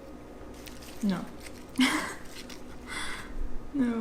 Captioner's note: laughs